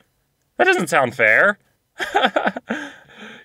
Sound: laughter

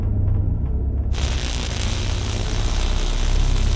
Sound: drum beats; electric buzz

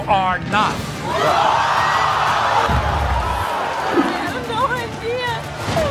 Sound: audience screaming

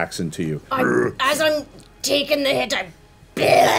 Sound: grumbles; growls

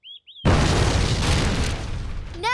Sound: explosion

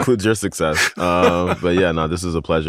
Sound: laughter

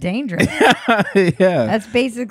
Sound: laughing

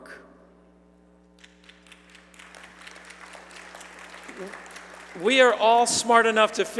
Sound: applause

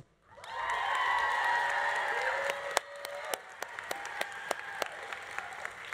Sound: audience cheering; audience applauding

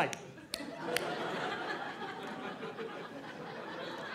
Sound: audience laughing

